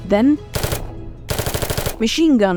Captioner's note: machine gun firing